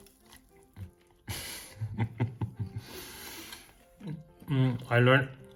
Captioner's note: baker laughs